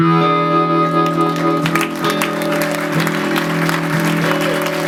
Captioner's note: audience applauding